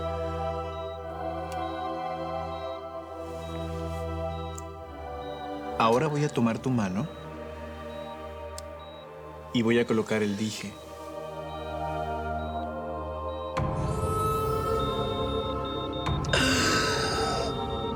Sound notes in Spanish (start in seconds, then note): 2.4 bip de telemetría